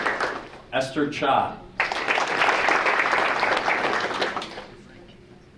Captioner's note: audience applauding; audience applauding